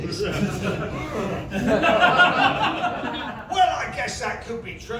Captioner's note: laughter